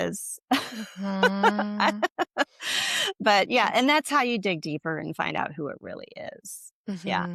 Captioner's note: laughter